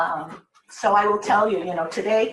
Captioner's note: none